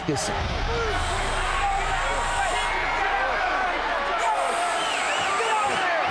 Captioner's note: crowd cheers wildly; Undertaker hisses